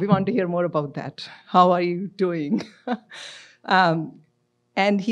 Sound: laughs

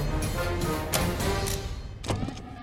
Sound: button click; alarms

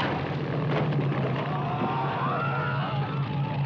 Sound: men yelling

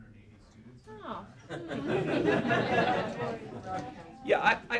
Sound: laughter

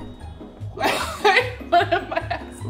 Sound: laughs

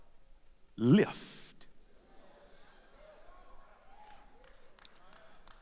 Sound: applause

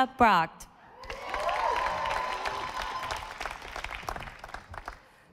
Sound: audience applauding

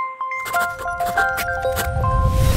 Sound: writing

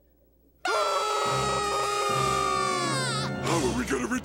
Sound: screaming

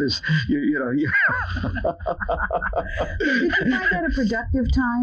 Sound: laughing

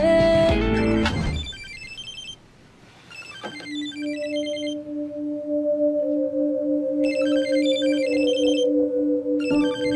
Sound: phone ringing

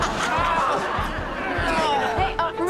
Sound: laughing; groaning

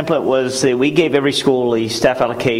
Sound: audio distortion

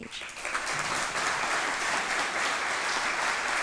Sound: audience applauds

